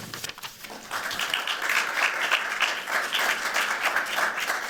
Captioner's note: applause